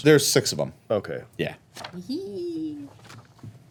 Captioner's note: giggles